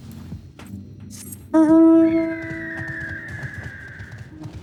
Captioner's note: tires screeching